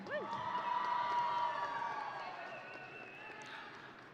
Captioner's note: audience cheering